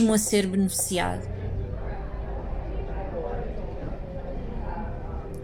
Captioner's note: people talking in a cafe